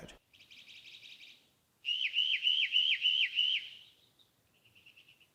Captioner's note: bird calls